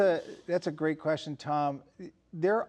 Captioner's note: laughs